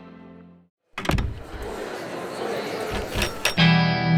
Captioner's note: chatter